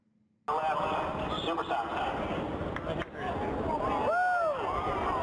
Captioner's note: people chattering; person screaming excitedly